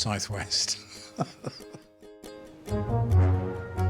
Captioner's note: laughing; gentle upbeat music